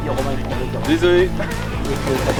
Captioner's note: laugh